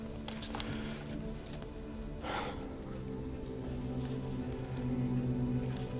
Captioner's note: sighs